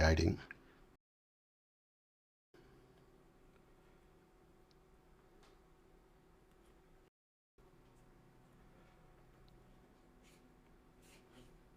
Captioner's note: silence